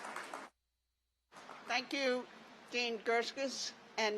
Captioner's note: applause